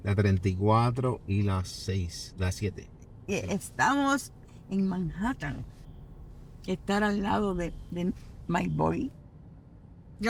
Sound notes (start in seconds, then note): 0.2 speaks in foreign language